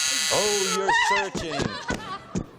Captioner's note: buzzer